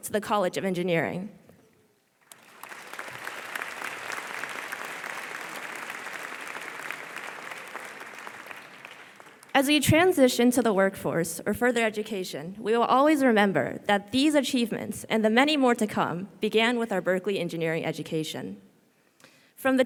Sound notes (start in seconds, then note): 2.2 audience applause